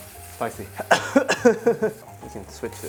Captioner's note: coughs